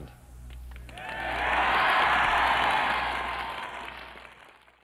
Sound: cheers and applause

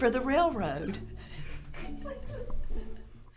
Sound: actors giggle

